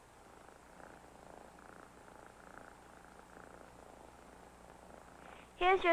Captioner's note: contented purring